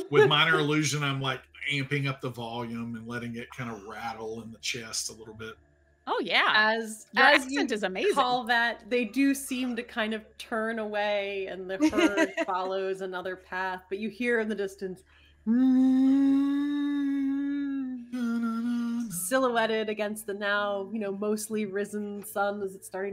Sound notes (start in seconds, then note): 0.0 imitating dinosaur roaring; 15.8 imitating dinosaur roaring